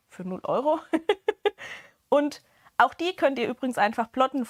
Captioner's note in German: gelächter